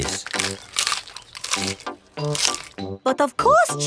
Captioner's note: munching